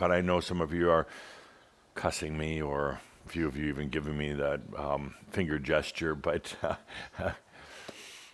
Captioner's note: chuckles